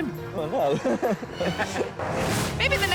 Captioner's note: chuckles